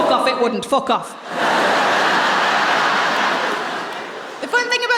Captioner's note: laughter